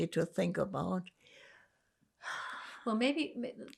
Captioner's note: sighing